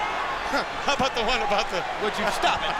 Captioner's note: laughs